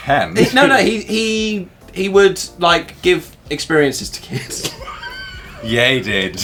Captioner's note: laughing